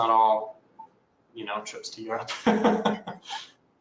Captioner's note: laughs